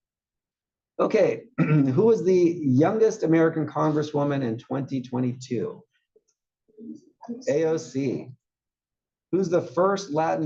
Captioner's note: cough